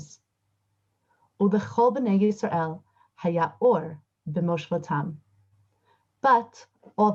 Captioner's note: recites 4th verse in Hebrew